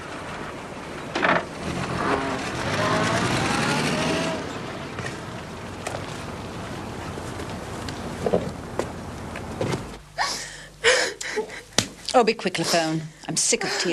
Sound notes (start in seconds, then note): 9.6 crying